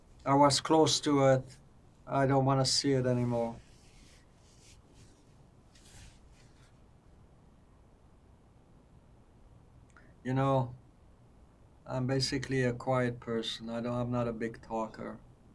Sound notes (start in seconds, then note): 2.8 pauses 6 seconds